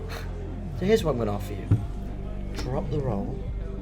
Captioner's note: scoffs